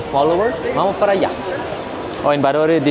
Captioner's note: Spanish